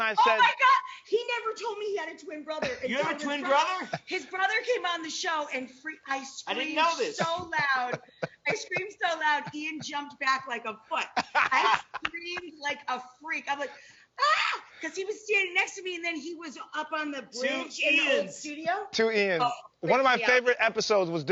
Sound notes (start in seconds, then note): 14.2 scream